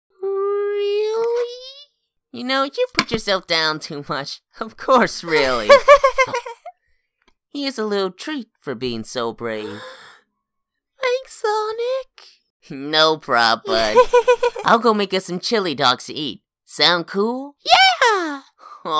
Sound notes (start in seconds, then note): 5.6 chuckles; 13.7 giggles